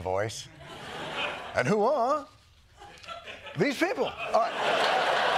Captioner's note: imitating seinfeld